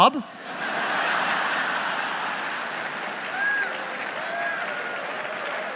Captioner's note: laughing; applauding and cheering